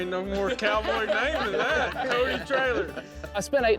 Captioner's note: all laughing